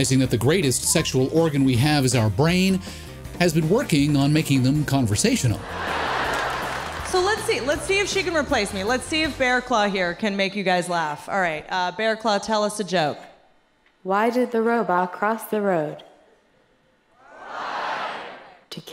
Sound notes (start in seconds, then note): 5.5 audience laughs